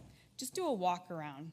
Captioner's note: none